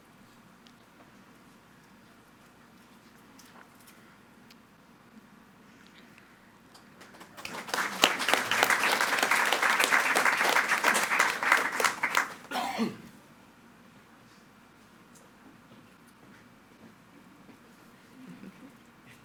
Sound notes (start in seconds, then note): 6.9 attendees clapping